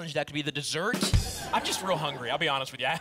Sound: ba dum tss ♪ and laughter

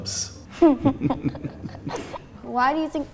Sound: laughing

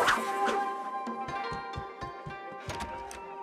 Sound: swooshing

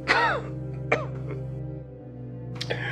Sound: coughs

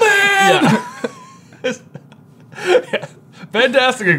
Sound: both laughing

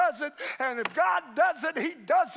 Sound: hand striking

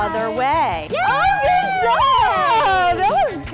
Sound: cheering

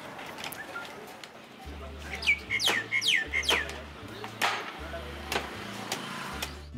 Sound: birds Chirping

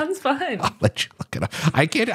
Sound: laughs

